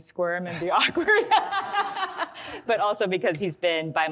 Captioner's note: all laugh